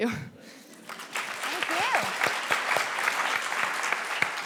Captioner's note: clapping